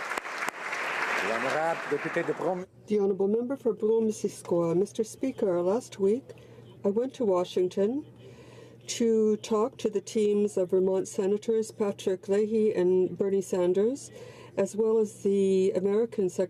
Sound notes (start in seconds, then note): 1.6 applause